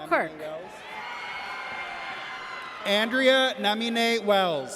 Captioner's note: audience cheers